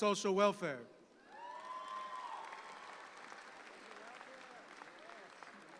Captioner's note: audience applauds